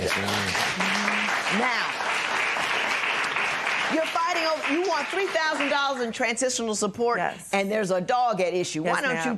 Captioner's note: applause